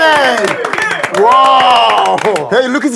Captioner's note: The emperor responds with applause